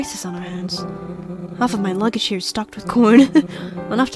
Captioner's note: laughs